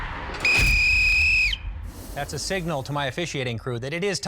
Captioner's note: whistle